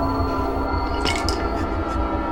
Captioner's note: tiles dropping